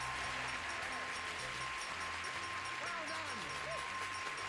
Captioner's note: applause